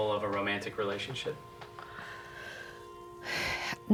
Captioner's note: sigh